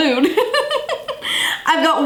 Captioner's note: laughs